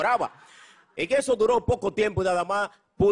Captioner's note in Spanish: risas